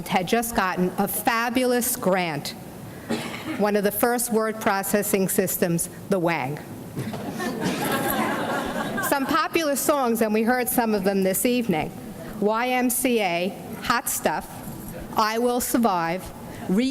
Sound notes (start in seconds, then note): 7.1 audience laughs